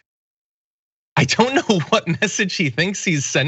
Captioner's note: laugh